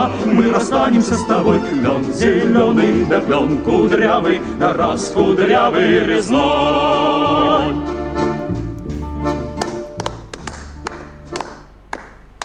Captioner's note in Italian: Applauso